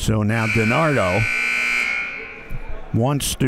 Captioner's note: clock buzzes